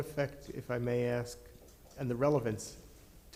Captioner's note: ~distortion~